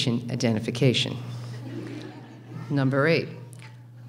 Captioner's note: laughing